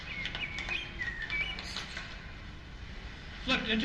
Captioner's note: birds chirping